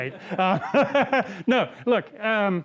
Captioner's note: laughing